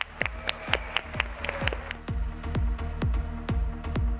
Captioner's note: clapping; crowd cheering; upbeat music